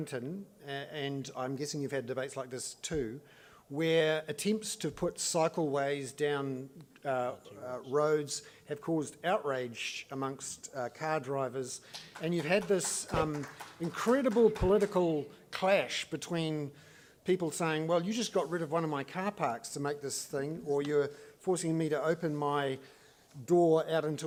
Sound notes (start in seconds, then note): 11.9 applause